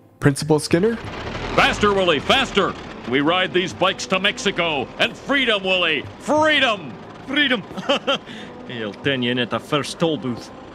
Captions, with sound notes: Principal Skinner? Faster Willie! Faster! We ride these bikes to Mexico, and freedom Willie! Freedom! Freedom. [Laughter] I'll turn you in at the first toll booth.